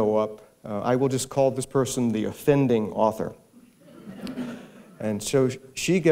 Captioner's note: muffled laughter